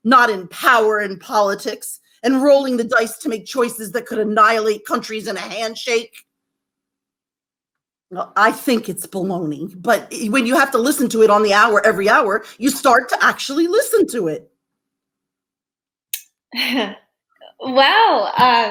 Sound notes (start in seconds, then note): 16.6 chuckling